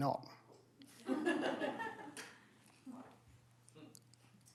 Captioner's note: laughter